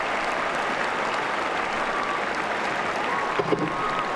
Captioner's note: applause